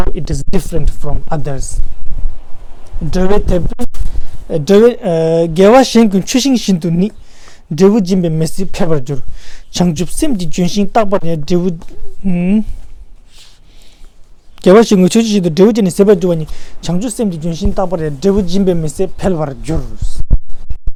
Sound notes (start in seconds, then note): 4.0 tibetan